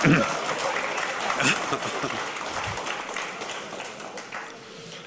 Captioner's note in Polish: oklaski